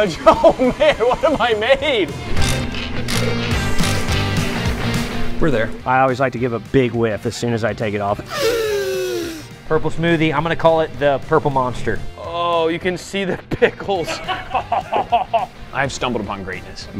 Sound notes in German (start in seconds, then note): 8.2 sniffs; 14.1 lachen